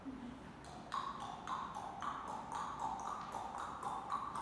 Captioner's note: clicking tongue